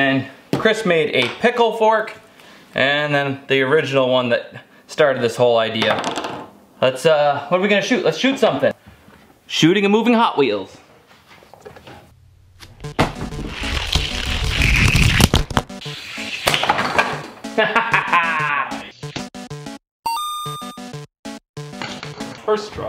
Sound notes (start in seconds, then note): 12.8 retro video game music; 16.7 object clatters; 17.5 victorious laughter; 20.1 coin sound effect